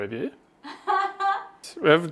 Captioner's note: laughs happily